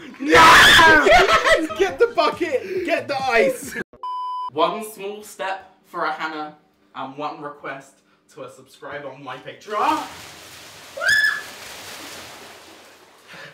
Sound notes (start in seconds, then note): 10.9 she screams